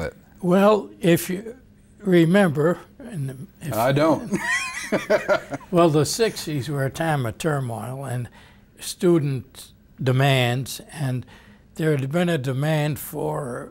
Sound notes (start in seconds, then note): 4.2 both laugh